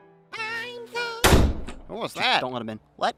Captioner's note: door slams shut